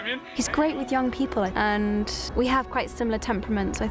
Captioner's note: none